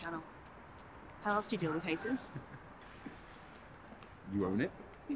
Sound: Adam laughs

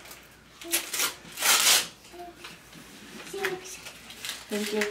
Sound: paper ripping

